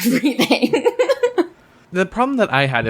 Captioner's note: laughs